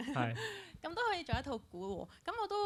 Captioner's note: laughs